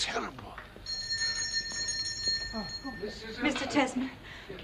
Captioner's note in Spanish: Suena la campana